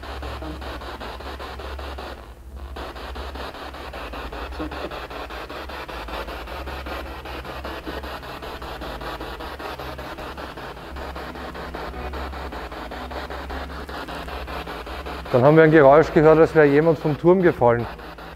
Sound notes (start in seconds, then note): 0.0 noise of the spiritbox in the background; 3.3 noise of the spiritbox in the background